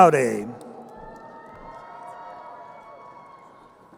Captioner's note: crowd cheering